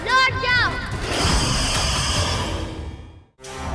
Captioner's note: hissing